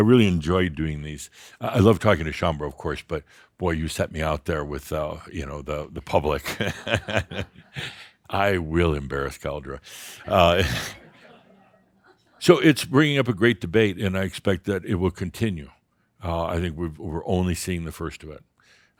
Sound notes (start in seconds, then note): 6.4 Adamus chuckles; 10.6 a few chuckles